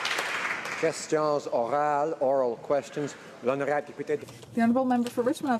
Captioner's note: applause